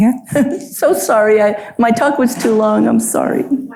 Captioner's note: chuckles